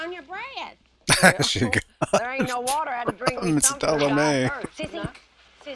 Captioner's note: laughing